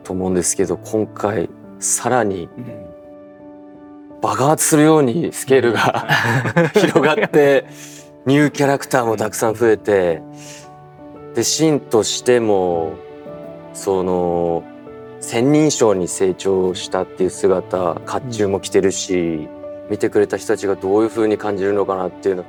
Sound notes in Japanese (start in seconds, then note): 8.3 笑い